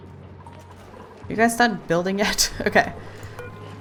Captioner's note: laughs